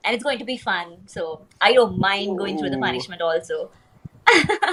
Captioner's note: laughs